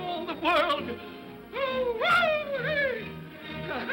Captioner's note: Scrooge whoops; laughs